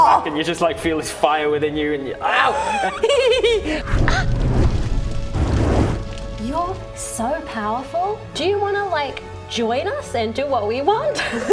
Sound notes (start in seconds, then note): 2.5 painful gasp